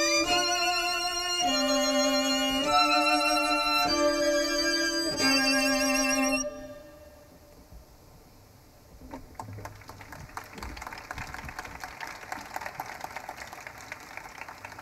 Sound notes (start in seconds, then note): 5.1 somber music fades; 9.4 audience applauding